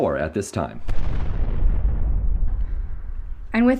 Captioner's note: a sonic boom goes off, suddenly silencing the external noise